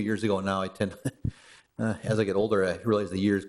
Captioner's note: chuckle